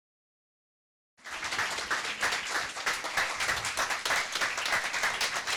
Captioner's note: audience applauding